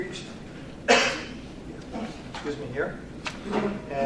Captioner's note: coughs